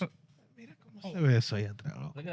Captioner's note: speaking In Foreign Language